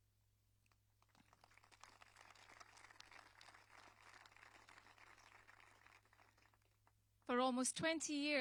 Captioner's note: applause